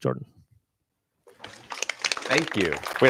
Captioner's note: applause